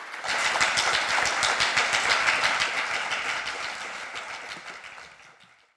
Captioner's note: applause